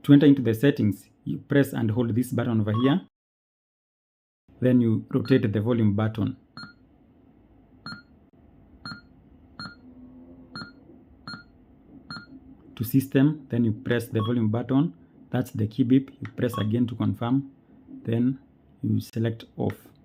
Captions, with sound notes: To enter into the settings, you press and hold this button over here. Then you rotate the volume button [Beep X6] to system. Then you press the volume button That's the key beep. Press again to confirm. Then you select OFF.